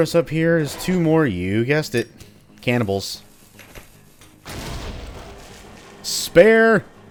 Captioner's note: kaboom